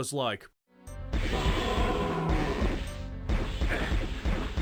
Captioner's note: weapon fire, miscellaneous enemy noises throughout